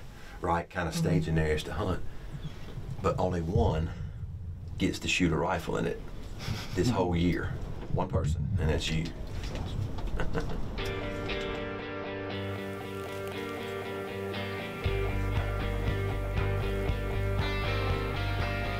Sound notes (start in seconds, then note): 9.9 chuckles; 10.8 mid-tempo music